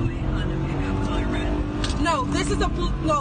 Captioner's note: car engine revs